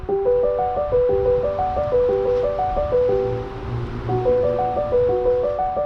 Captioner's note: distant traffic